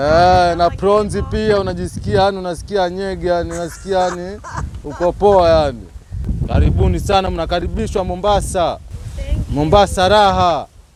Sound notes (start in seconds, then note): 3.5 laughter